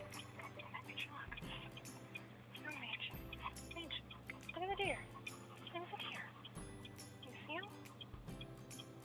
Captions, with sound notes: (whispered) Major look! Maj. (begging tone) Maj.. Look at the deer! They're over there! Do you see 'em?!